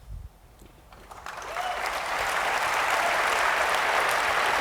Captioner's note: applause